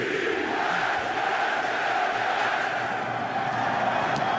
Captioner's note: laughs; chanting